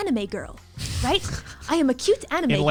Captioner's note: laughs